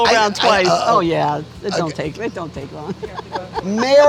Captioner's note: chuckles